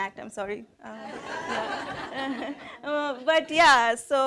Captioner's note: laughing